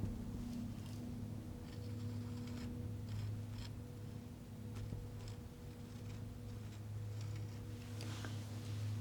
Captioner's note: scratching